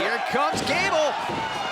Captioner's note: crowd cheering